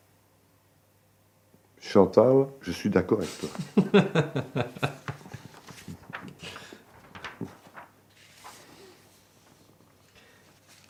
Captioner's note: laughs